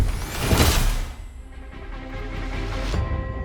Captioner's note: graphic whooshing; intense music